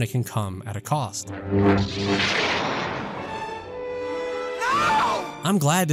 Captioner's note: lightsaber crackle; Luke, screaming